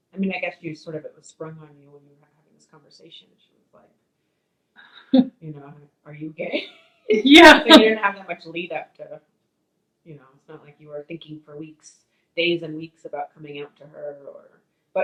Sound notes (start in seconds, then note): 4.8 chuckles; 7.1 laughs